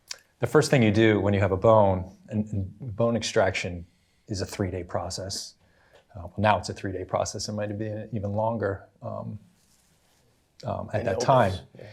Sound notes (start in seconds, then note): none